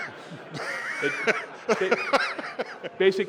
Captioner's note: laughter